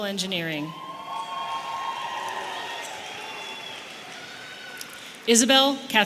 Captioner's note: audience applauding and cheering